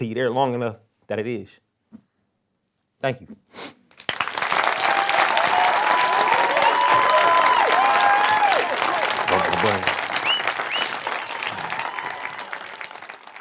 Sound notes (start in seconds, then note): 3.5 sniffles; 3.9 audience clapping and cheering